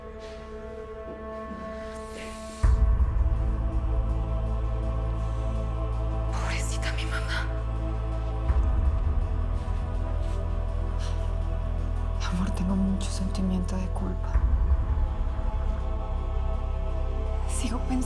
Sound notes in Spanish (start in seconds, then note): 8.6 En voz baja